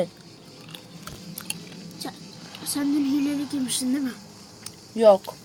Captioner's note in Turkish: Cips yeme sesi